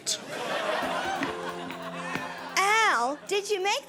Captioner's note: studio audience laughing